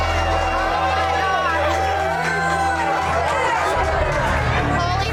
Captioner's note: indistinct crowd chatter